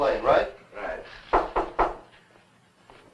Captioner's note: knocking